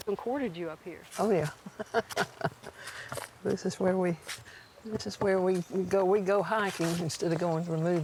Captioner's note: laughter